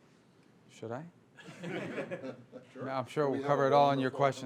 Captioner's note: laughter